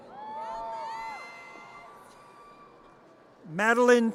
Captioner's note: audience cheers